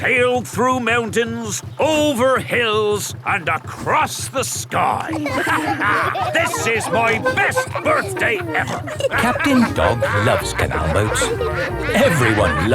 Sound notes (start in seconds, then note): 5.8 all laughing